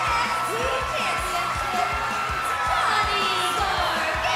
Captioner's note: cheers and applause